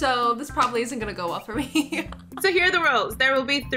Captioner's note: laughs